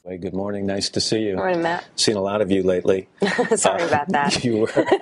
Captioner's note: laughs